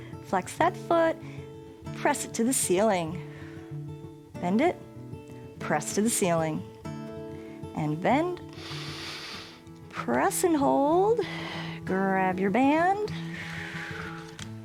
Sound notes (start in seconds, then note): 8.5 inhales; 13.5 exhales